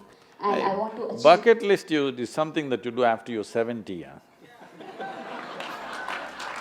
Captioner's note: laughter